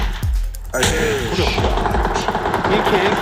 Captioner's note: bang bang